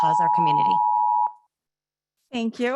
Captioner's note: timer beeping